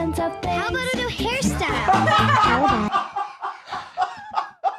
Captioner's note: laughs